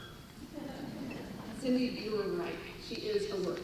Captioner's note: laughter